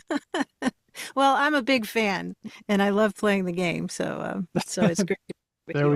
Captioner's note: laughs